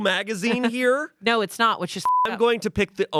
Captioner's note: beep